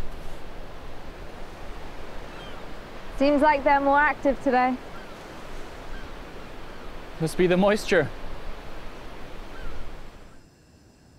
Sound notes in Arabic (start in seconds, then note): 7.5 صفير الريح من خلال الكراك